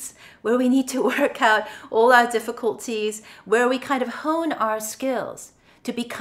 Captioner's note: chuckles